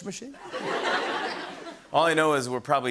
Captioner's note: laughter